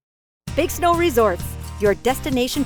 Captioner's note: voiceover